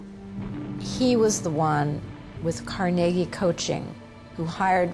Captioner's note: voiceover